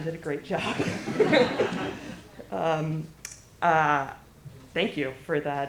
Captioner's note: laughter